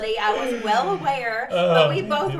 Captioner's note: laughs